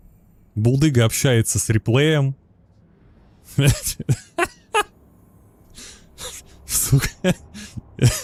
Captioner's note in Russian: смех